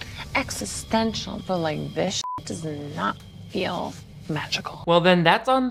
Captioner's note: beep